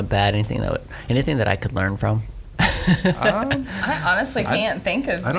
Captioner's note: laughs